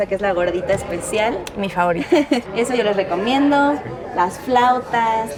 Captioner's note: speaks in Spanish